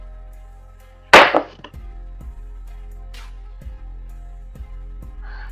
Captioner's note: glass thudding